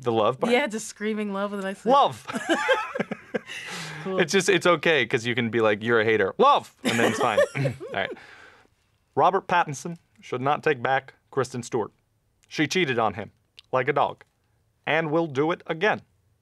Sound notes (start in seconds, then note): 2.2 laughter; 6.9 laughs